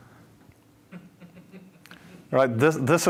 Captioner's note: laughter